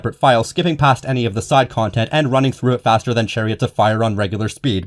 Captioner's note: none